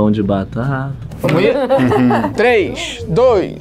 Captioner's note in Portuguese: risadas